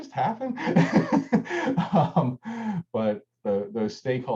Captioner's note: laughs